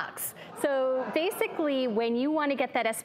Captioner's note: laughter